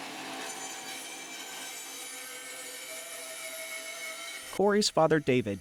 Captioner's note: saw screeching